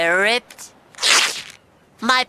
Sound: rips fabric

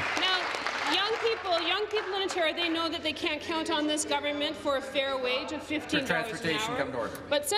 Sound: applause

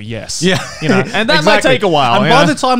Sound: laughing

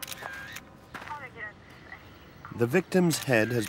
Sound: camera flashing; police radio chattering

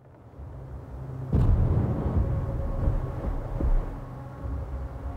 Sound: rumbling

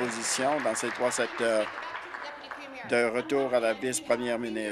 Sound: applause

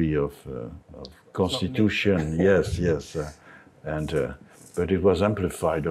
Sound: laughs

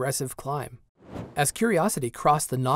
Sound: whoosh

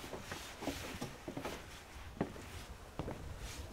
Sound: footsteps

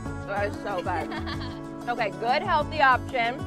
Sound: laugh

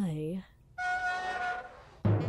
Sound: metallic friction SFX

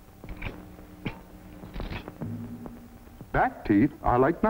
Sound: scissors sound

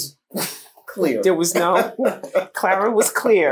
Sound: laughter

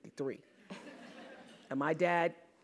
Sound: laugh

